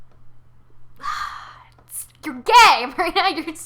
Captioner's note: sigh